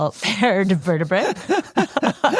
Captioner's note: laughs